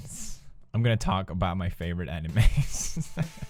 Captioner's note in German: kichert